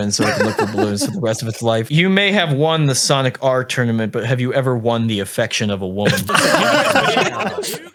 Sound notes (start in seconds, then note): 6.0 laughing